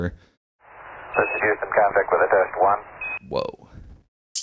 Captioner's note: sample of radio communication